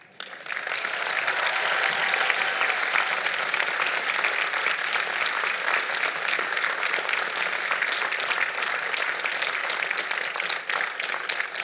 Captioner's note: applause